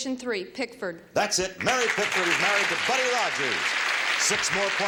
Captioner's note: audience applauds